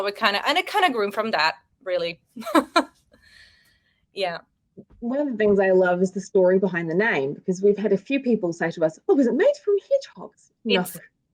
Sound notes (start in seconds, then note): 2.4 women chuckling